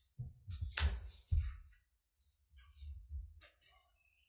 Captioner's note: papers rustling